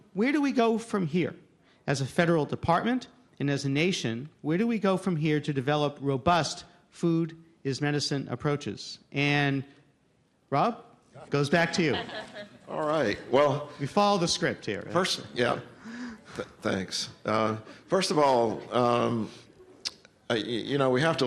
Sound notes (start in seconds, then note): 11.5 laughter